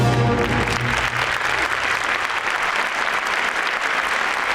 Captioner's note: audience applauding